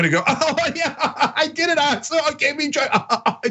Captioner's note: laugh